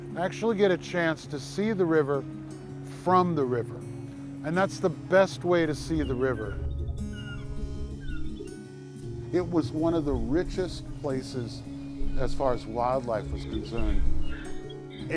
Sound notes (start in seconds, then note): 6.9 bald eagle caws